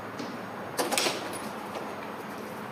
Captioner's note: door opens